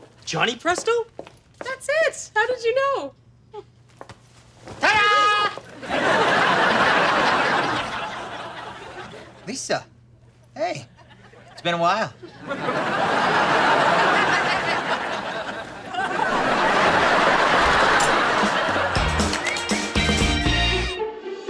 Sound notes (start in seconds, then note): 5.2 audience laughter; 12.2 audience laughter; 18.8 upbeat music